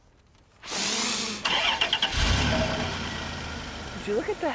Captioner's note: car Starts